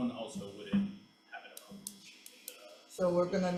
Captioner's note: faintly speaking